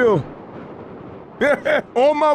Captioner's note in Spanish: Coach se ríe